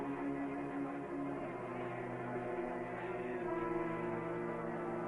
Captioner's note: crowd chattering